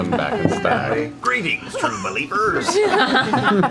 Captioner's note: Stan Lee voice